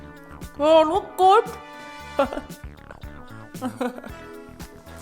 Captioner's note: chuckling